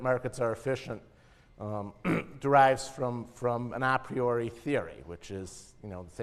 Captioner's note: cough